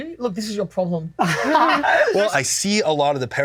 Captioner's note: both laugh